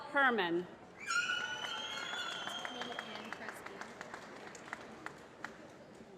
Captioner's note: applause